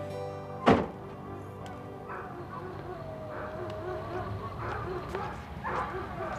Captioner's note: trunk bangs; dogs barking